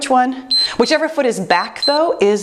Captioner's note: timer beeps